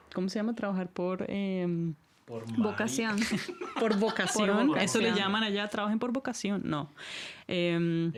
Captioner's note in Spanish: risas